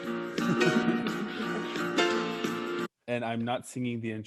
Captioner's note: upbeat music; laughing